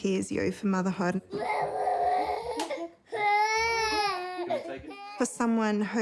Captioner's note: bawls, babbles